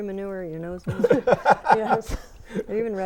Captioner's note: laughing